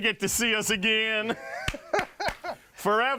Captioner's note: laughing